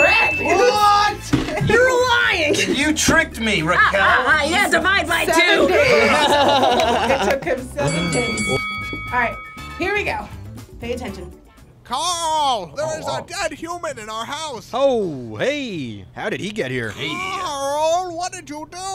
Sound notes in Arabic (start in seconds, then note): 5.6 يضحك; 7.8 قرع الجرس